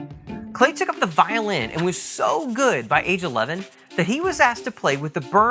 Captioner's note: swish